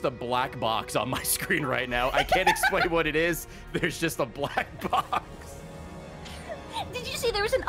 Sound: laughs

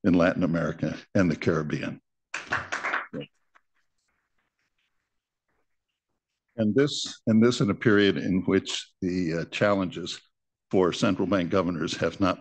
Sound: applause

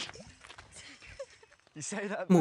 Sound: laughter

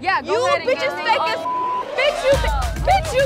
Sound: beep

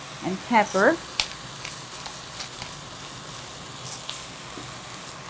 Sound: chicken sizzling

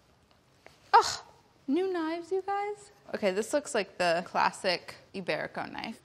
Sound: none

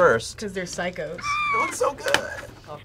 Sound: woman screams

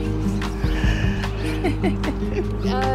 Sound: laughter

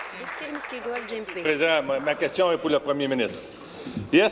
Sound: applause

